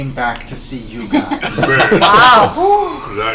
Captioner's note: all laugh